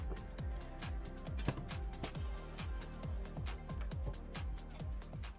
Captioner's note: tool organizer clanking